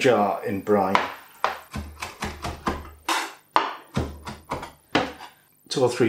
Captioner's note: chop chop chop